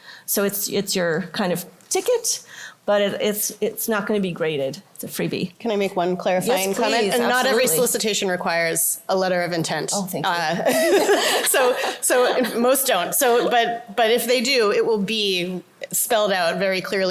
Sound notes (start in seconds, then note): 10.6 laughter